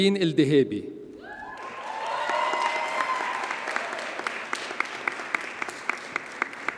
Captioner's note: audience cheers and applauds